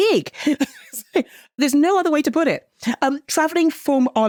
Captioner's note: chuckles